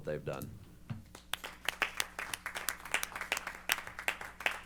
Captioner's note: applause